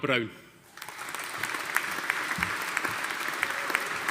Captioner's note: audience applauding